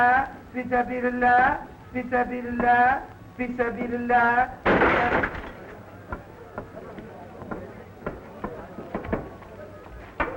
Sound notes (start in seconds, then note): 4.7 thudding; 6.2 people chattering